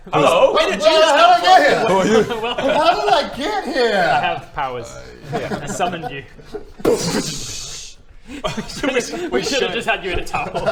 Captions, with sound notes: HELLO! - HOW THE HELL DID I GET HERE?! - Where did you just come from? Who are you?! How did I get here...? I have powers I summoned you *BOOF!* *KKDSSHHHH!* We should have just had you in a towel